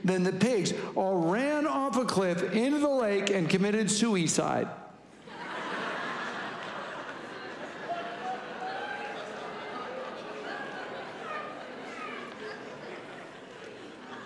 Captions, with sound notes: Then the pigs all ran off a cliff, into the lake, and committed sooey-side. (congregation laughing)